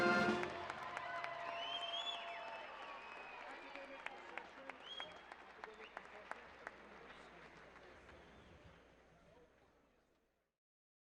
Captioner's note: music, applause; cheering, applause